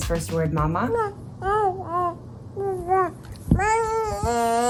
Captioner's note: baby cooing